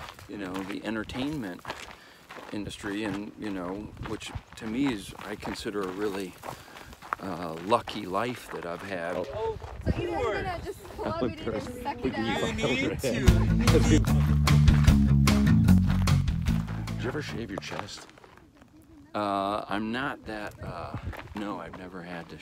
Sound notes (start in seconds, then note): 9.4 hikers chattering; 12.2 energetic guitar music